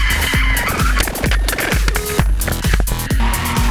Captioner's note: clanking